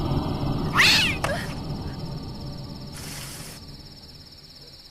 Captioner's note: cat screeching